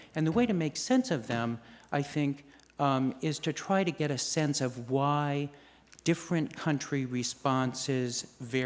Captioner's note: none